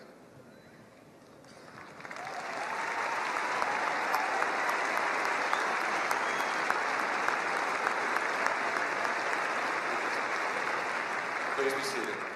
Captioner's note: applause